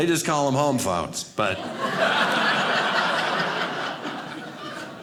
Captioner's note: audience laughing